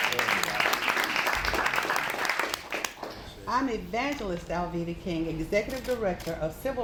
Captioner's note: applause